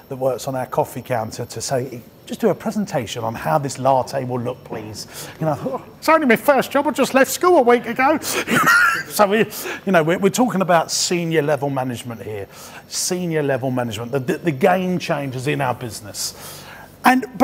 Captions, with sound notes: that works on our coffee counter to say, just do a presentation on how this latte will look, please. It's only me first, just left school a week ago. (laughs) We're talking about senior level management here. Senior level management. The game changers in our business.